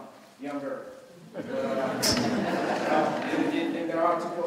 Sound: laughter

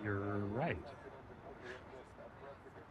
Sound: chuckles

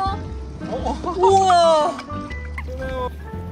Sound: laughs

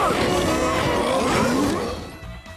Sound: all growling

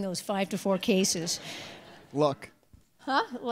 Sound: audience laughs

